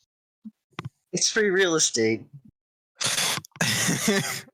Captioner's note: laughs